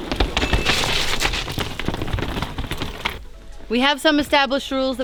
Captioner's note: wheels squeaking